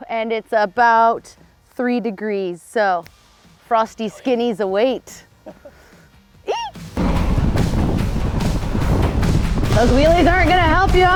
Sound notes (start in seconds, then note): 6.5 shrieks; 6.6 lively music